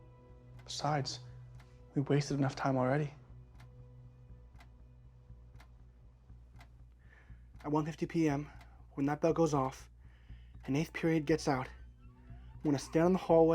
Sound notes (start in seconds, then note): 3.4 clock ticking